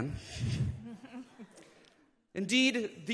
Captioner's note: everyone chuckling